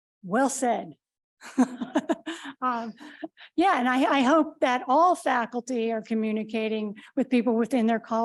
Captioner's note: laughs